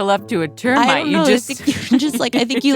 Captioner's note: laughs